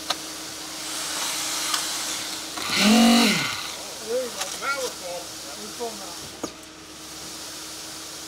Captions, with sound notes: (machine revving) - There we go. - Now we're full. - We're full now.